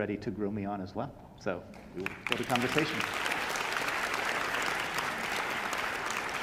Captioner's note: audience applauding